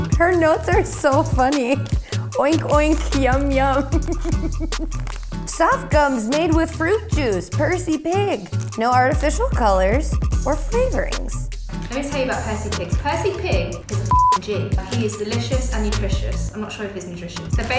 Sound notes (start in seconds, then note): 3.6 chuckles